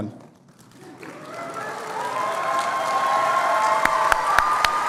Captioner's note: cheering